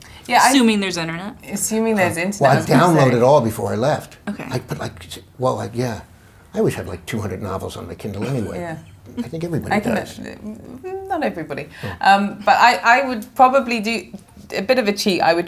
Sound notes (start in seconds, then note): 8.2 laughing